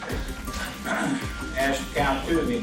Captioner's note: judge clears throat